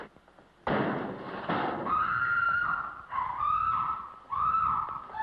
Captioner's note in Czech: Ječící